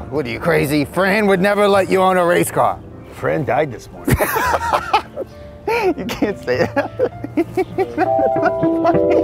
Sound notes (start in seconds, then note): 4.0 both laughing